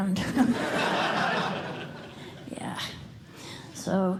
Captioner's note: laughter